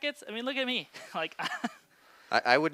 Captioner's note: chuckles